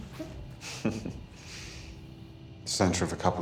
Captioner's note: both chuckle